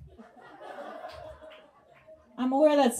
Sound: audience laughs

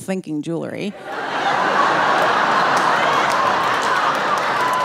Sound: audience laughing

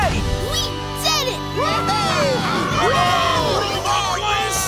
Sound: cheering

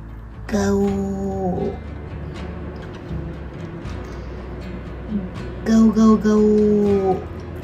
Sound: imitating dinosaur sounds

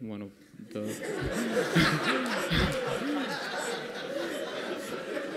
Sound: laughter

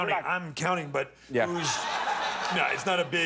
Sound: laughter

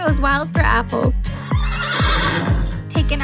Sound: horse neighs

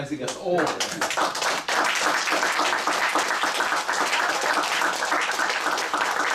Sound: applause

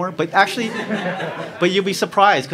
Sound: crowd laughs

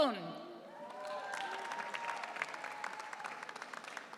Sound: audience cheering

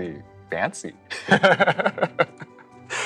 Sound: laughs

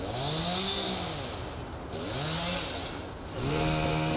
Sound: chainsaw buzzing

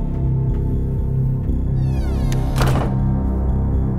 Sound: door slams

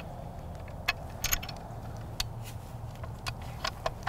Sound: gun loading

